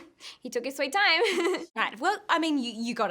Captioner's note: laughing